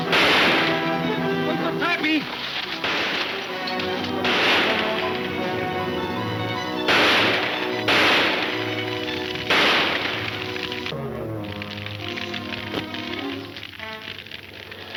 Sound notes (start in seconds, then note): 3.0 gunshots banging